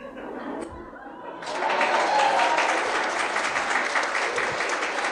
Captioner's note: audience cheering